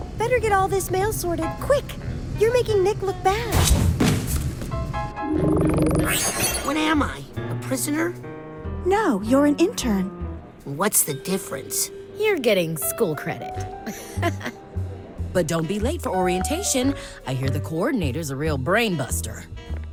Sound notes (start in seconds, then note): 13.8 laughs